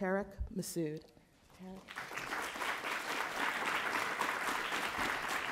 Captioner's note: audience applauds